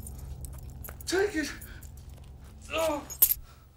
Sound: groans

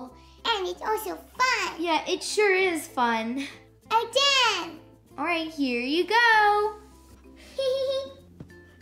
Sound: baby giggles

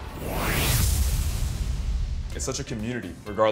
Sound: logo whooshing

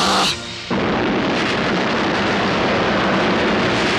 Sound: explosion

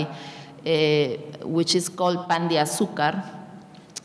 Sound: speaking in a foreign language

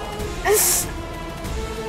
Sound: cries out

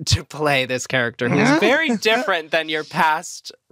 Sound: laughs

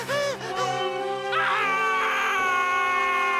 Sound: screaming

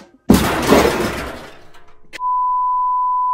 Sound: poster crashing; beep

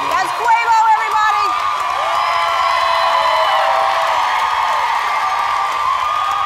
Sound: applause

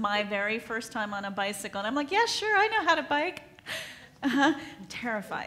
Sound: laughs

